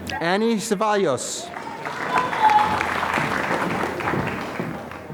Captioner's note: applause